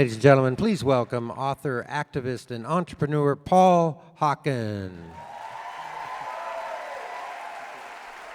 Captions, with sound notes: -Ladies and gentlemen, please welcome author, activist, and entrepreneur Paul Hawken. -[applause]